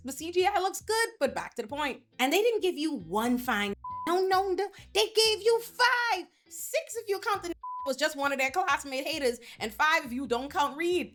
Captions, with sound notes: the CGI looks good, but back to the point. And they didn't give you one fine (beep) I don't know, they gave you five, six of your (beep) was just one of their co-hostile and haters and five of you don't count read.